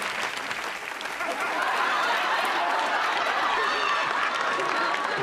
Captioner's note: laughter